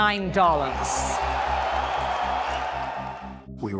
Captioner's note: loud cheering